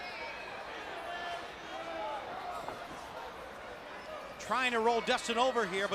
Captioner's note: crowd chatter